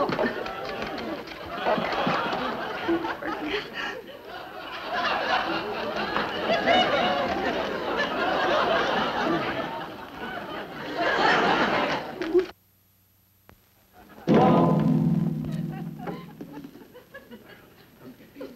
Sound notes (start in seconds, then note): 0.2 loud fumbling; 3.3 audience laughing; 14.3 loud gong